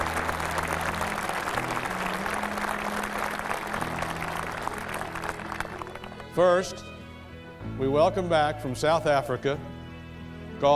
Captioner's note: cheers and applause